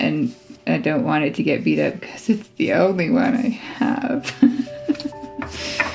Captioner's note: laugh